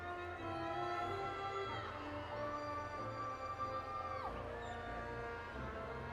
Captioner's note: audience applauding and cheering